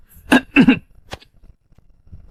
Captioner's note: cough, cough, cough